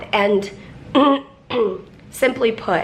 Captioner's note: clears throat